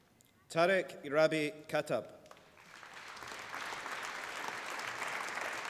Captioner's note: applause